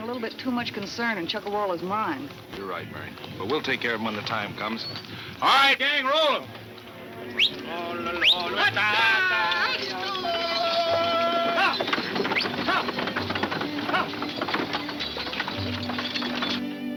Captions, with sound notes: in Chuckawalla's mine. - You're right, Mary, but we'll take care of him when the time comes. All right, gang, roll 'em! (whistles) (man vocalizing) (man shouting)